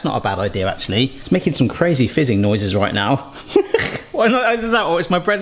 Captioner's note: laughs